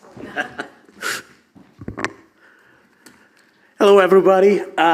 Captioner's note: presenter laughs